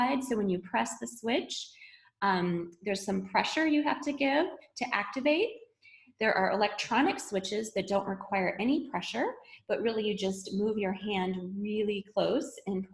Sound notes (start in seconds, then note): none